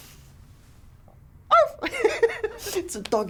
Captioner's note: Calvin laughs; laughs; Calvin imitates dog bark